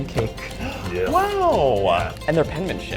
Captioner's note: gasps